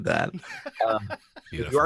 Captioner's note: laughs